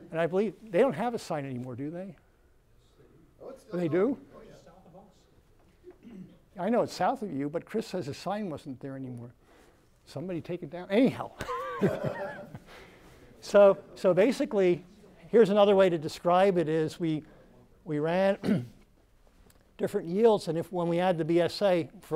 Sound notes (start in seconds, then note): 11.4 laughs